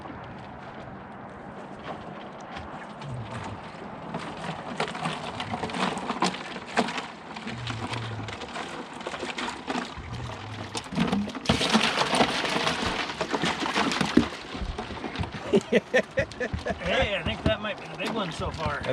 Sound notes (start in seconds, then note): 6.4 fish thrashing; 15.4 laughing